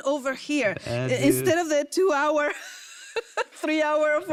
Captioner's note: laughs